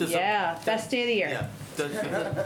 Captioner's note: laughter